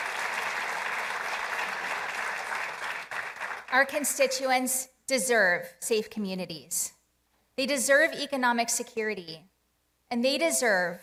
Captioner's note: applause